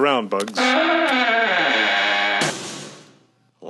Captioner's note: door closes